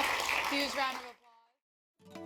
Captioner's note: applause